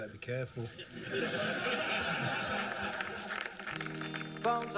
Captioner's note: laughter